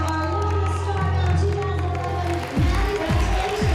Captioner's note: cheering and applause